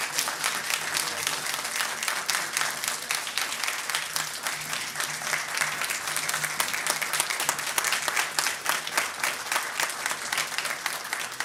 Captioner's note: applause